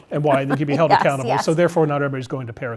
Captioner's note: laugh